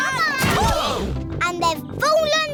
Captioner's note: all groan